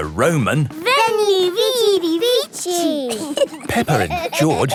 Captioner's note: laughing